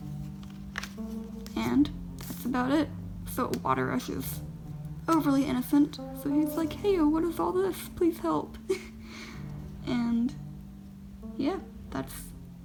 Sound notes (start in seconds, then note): 8.6 laughs